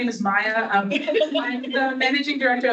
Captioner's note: audience laughing